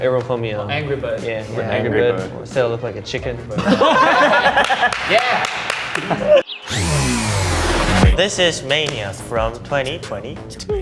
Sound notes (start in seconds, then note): 3.5 laughter